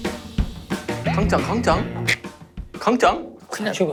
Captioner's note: the clock is ticking